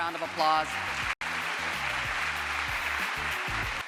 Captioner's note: crowd applause